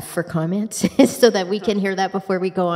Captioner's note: chuckles